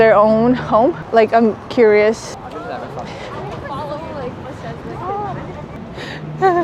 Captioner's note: people speaking on the street